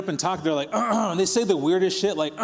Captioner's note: clearing throat